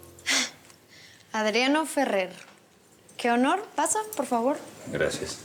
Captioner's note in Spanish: ruido al abrir